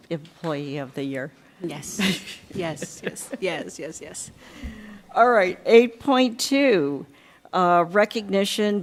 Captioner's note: laughter